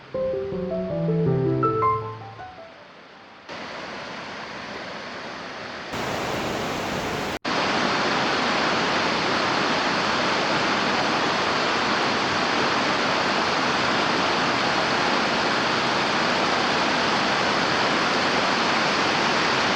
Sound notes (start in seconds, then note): 0.0 piano plays; 3.5 sound of running water; 5.9 louder sounds of running water